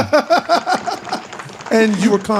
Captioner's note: laughing